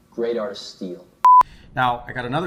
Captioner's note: beeping